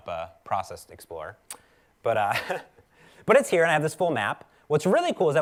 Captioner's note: laugh